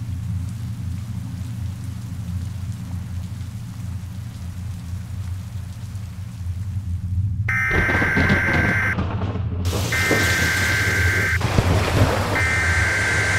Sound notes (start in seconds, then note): 0.3 sound of soft rain falling; 7.4 loud beeping and thunder